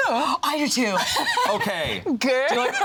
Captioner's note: laughs